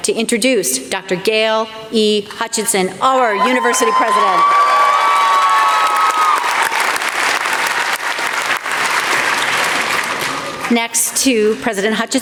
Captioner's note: applause